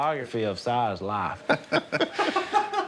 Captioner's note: chuckling